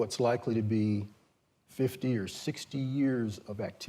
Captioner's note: none